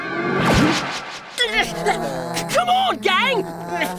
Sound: groaning

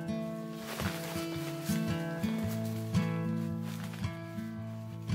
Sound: rustling sleeping bag; calming acoustic guitar

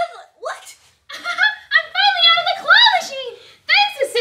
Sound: laughs

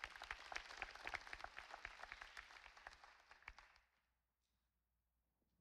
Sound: audience applauding

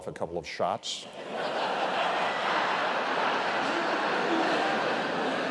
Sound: laughter

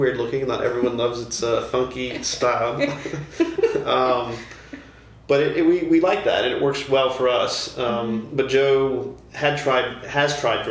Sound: laughter

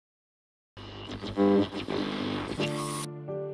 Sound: static voice distortion; soft piano music

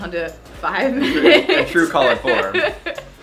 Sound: laughing

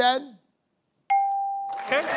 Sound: bell dings

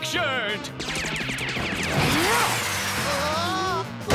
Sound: grunting; screaming

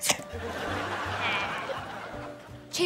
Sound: chuckles

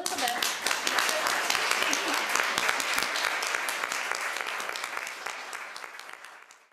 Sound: applause

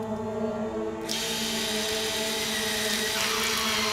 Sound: drill whirs

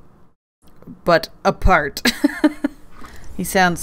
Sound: laughs

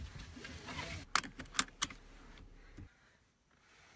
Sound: seatbelt clicks

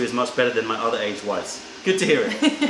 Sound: laughter

